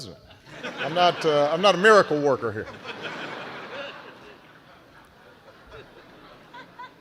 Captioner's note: laughter